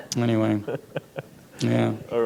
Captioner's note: laughter